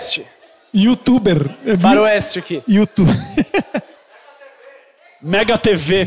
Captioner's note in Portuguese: risos